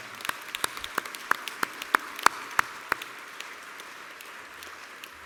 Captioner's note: applause